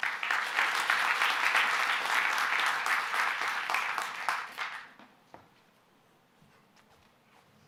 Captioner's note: applause